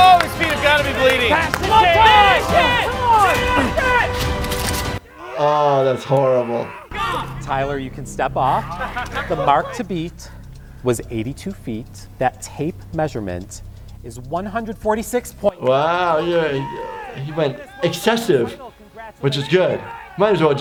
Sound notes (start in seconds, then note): 2.0 dramatic music; 3.1 group shouting in excitement